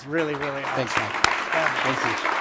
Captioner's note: applause